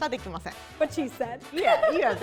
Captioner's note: laughs